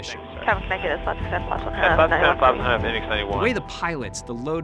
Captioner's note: pilots chatter